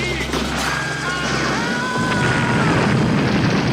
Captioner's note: agents screaming; explosion booming; bazooka firing